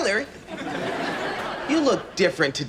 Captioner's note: audience laughs